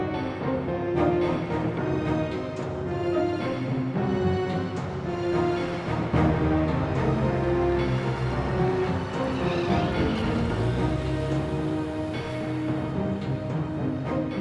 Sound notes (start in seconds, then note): 9.3 tires screech